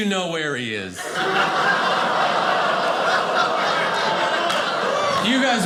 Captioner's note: audience laughing